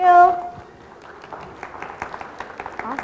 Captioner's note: audience clapping